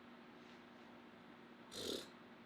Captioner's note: blows raspberries